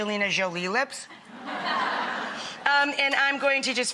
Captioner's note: audience laughs